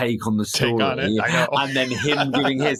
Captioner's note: laughing